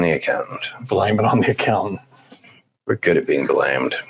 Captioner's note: laughs